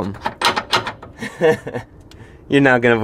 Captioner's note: giggle